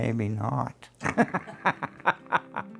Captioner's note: laughs